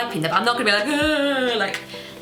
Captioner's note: groans